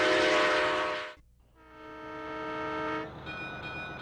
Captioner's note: train horn